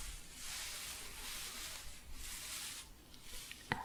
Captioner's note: staticky shuffling